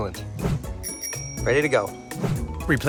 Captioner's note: bell dings